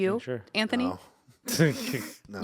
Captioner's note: laughing